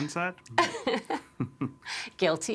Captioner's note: all chuckling